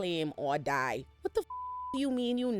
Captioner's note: beep